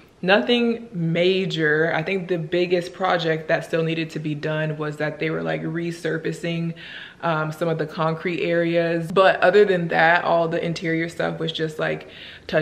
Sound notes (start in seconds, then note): none